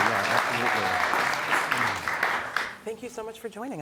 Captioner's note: audience clapping